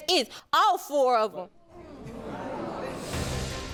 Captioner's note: audience reacts